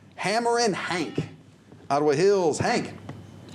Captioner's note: buzzer